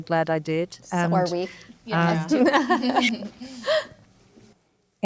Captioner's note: panelists laughing